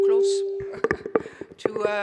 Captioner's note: chuckles